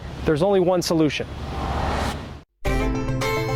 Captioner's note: air whooshing; upbeat music